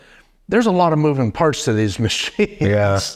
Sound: laughing

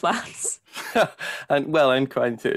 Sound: they laugh

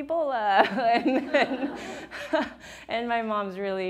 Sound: audience laughs

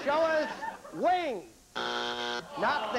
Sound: buzzer

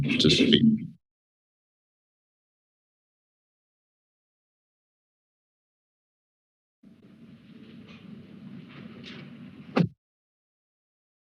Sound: silence

